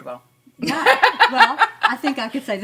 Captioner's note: laughs